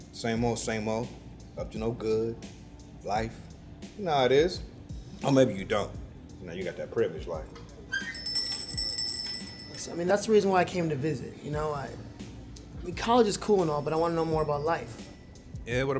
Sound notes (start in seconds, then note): 7.9 bells ringing